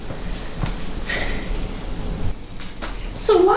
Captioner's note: sighs